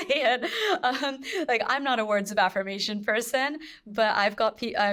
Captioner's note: chuckles